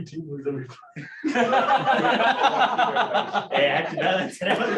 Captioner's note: laughter